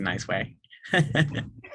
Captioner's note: laughs